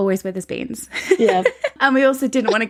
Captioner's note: laughs